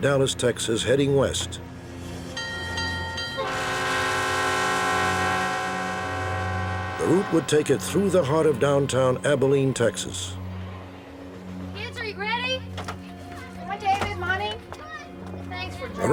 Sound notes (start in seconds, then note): 3.0 train horn